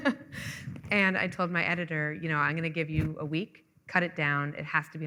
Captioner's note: laughing